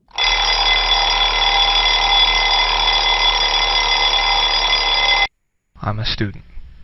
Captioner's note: alarm clock ringing